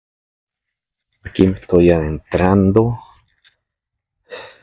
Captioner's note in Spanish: suspiro